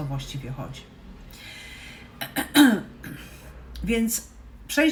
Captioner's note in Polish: kaszel